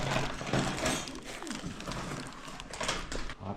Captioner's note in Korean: 와구와구